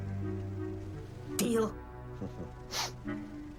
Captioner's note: chuckles